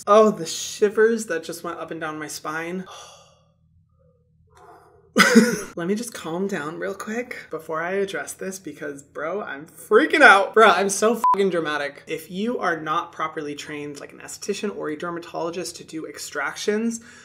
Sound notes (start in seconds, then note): 4.5 Hyram sighing and exhaling; 5.2 Hyram laughing; 11.2 beep